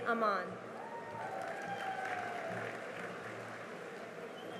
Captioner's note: cheering and applause